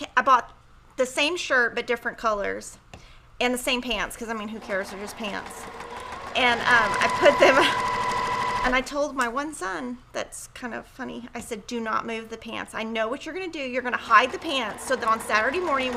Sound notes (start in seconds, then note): 4.0 sewing machine whirrs; 7.4 chuckles